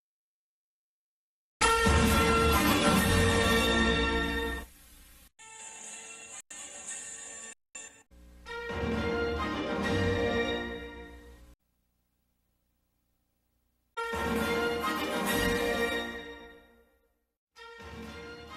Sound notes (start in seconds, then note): 1.6 fanfares resume playing; 11.3 silence; 14.0 fanfares resume playing